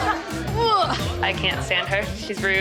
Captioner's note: grunting